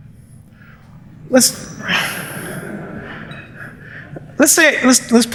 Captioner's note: laughter